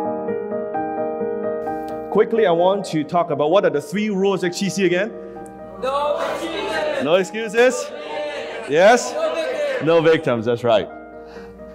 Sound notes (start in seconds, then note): 5.8 crowd shouts